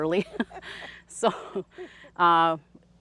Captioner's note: laughs softly